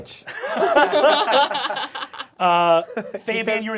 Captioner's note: cast laughing